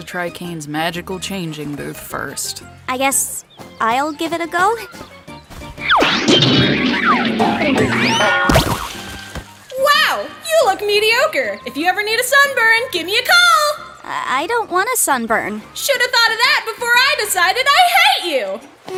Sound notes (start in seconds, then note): 5.7 doink!; 5.8 bonk!; 5.9 poink!; 5.9 boink!